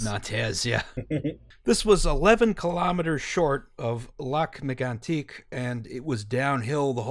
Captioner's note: laughter